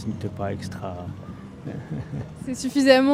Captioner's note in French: rires